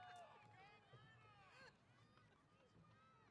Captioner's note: none